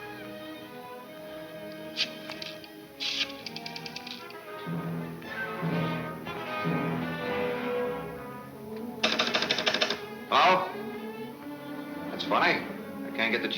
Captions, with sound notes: (pensive orchestra music) (phone clicking) Hello? That's funny, I can't get the chief's office.